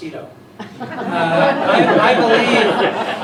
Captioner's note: laughter